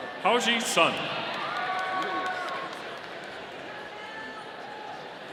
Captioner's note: audience cheering